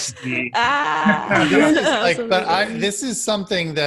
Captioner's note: laughing